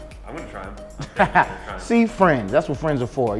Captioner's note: laughs